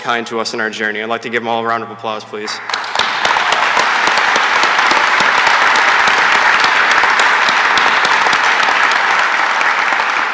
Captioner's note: applause